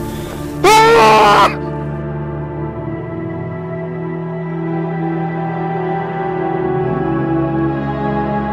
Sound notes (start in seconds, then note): 0.6 Julius screams; 4.0 sinister music plays